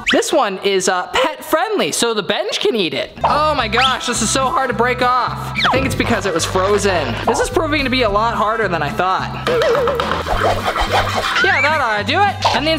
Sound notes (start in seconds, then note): 10.1 stirring